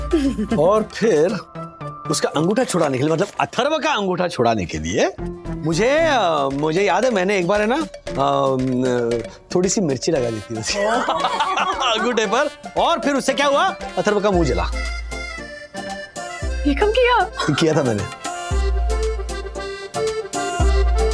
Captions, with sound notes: And then... to get rid of this habit I mean for Atharva to get rid of this habit... I... I remember, once... Ah... put little bit chilly powder on it. - Haw! - [laughs] On the thumb, and then Atharva's mouth burned. - When did you do this? - I did it. [background music]